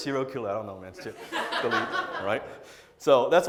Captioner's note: audience laughs